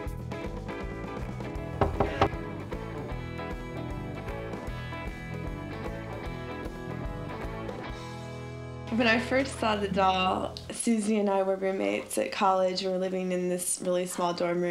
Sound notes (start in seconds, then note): 1.8 knock on door